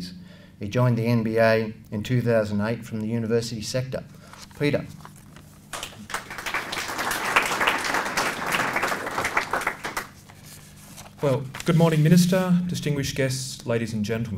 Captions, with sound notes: He joined the NBA in 2008 from the University sector. Peter. (Applause) Well, good morning Minister, distinguished guests, ladies and gentlemen.